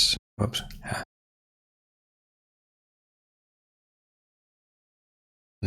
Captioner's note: blank Audio